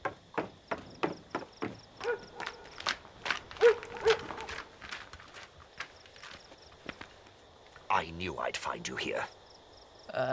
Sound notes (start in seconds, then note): 0.0 footsteps clambering; 3.6 dog barking